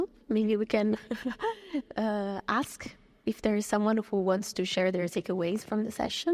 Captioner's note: chuckles